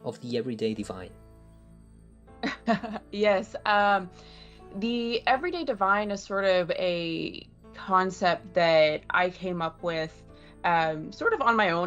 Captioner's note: chuckles